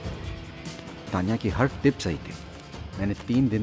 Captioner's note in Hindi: none